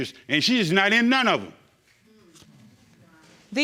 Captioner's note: audience murmuring